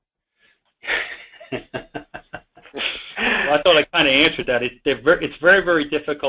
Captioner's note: chuckling